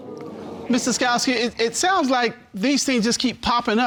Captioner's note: audience exclaiming